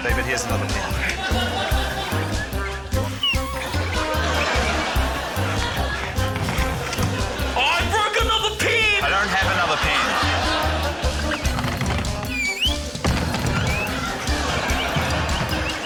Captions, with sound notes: - David, here's another pen. (WHIMSICAL MUSIC) (LAUGHTER) - Oh, I broke another pen! - I don't have another pen. (LAUGHTER) (WALL THUDS)